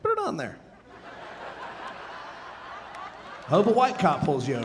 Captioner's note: audience laughing